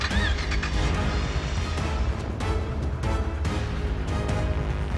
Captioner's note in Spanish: Sonido al arrancar el motor